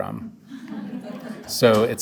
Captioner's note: audience laughs